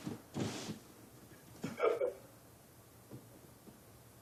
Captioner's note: crying